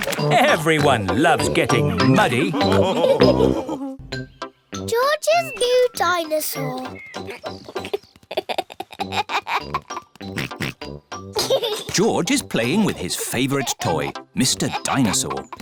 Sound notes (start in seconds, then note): 7.2 giggles; 10.3 oinks